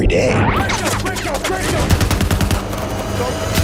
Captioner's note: gunshots